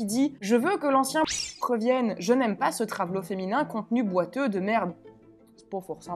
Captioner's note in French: bip